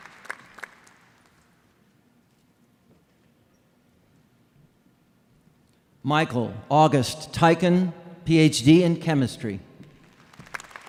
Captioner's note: applause